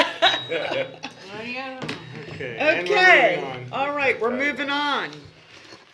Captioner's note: laughter